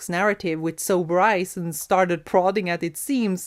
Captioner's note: none